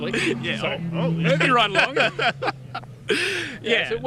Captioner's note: laughs